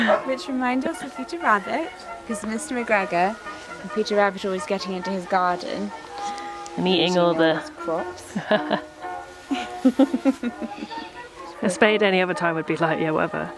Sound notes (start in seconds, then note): 9.5 they laugh